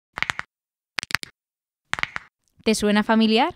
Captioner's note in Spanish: Crujido de nudillos